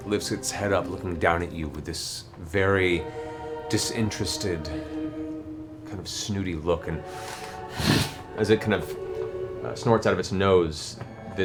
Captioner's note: huffs